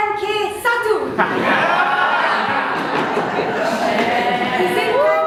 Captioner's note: animals cheer